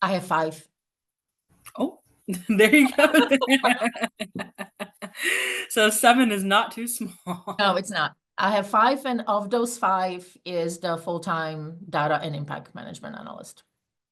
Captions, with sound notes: - I have five. - Oh there you go. (both laughing) So seven is not too small. - No it's not. I have five, and of those five is the full-time Data and Impact Management Analyst.